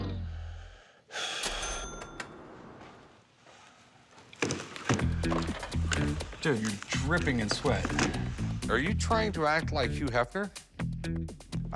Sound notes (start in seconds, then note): 0.3 sighs; 1.4 ding